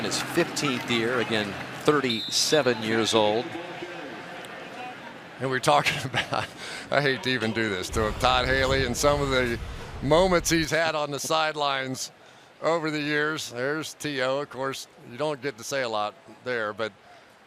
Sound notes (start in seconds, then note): 4.1 pa announcement; 5.8 chuckles